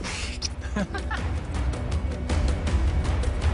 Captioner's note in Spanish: Risas